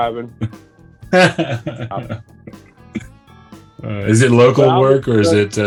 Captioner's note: laughs